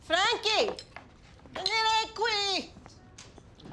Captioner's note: speaking foreign language